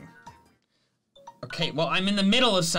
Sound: alarm beeps

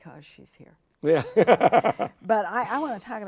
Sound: chuckles

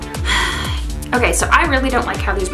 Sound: sighs

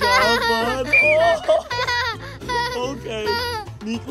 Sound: laughter

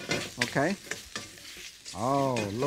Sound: wok clinks; ingredients swishing

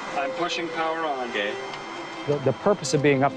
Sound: radio chatter

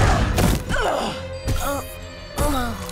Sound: grunting; groaning

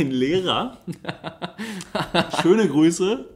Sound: laughs

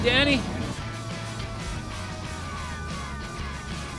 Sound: jacket rustling

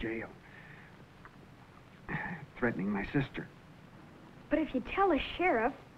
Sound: groans

